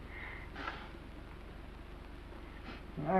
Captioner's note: blows nose softly